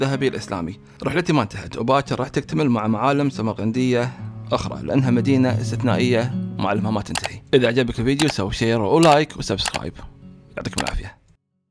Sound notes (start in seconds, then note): 7.3 mouse clicking